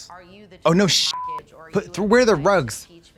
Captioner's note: beep